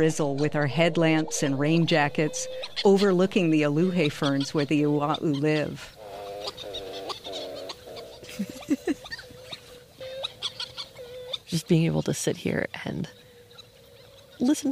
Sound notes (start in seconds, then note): 5.9 Lānaʻi Colony ‘Ua‘u calls; 8.2 giggle